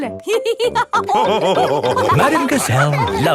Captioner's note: all laughing